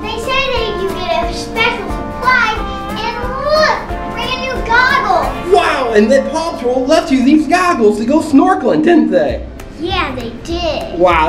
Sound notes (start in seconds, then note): 5.6 voiceover